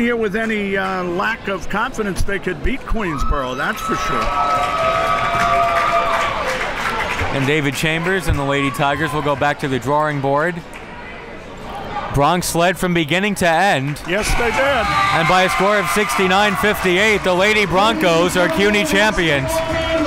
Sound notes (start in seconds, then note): 5.6 crowd cheers